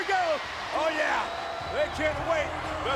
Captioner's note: crowd cheering